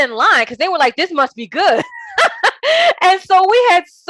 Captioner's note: laughing